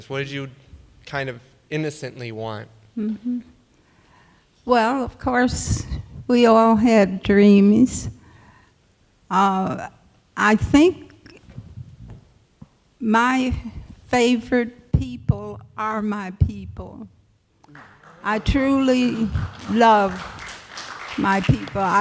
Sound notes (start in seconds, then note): 17.6 applause